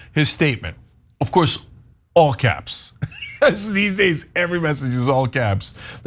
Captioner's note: laugh